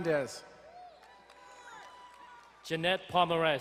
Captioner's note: crowd cheering and applauding